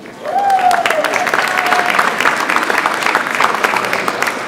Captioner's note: audience applauds